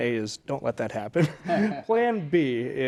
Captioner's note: all chuckling